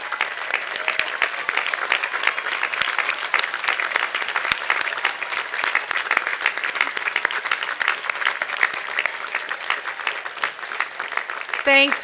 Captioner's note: applause